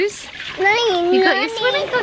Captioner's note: baby babbles